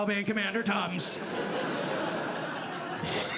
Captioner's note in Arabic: ضحك; يضحك